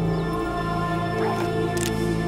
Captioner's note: cocking gun